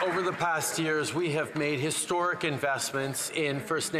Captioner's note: some Applause